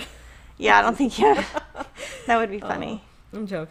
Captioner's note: laughing